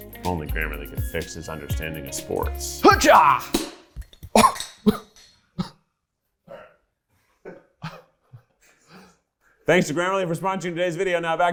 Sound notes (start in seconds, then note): 2.8 scoffs in surprise; 7.4 nervous laughter